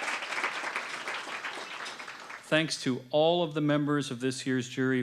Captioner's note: applause